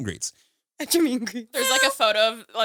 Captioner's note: laughs